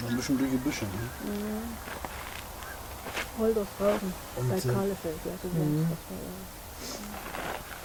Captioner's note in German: Gänsegeschnatter